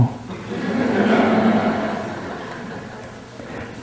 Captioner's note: laughter